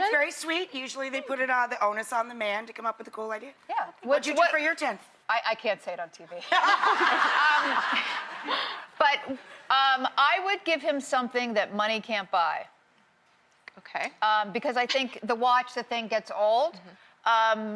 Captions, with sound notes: That's very sweet. Usually, they put the onus on the man to come up with the cool idea. What'd you do for your 10th? I can't say it on TV. (audience laughing) But I would give him something that money can't buy. Okay. Because I think the watch, the thing gets old.